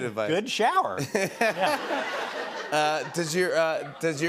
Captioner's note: laughter